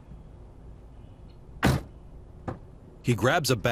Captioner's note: car door slams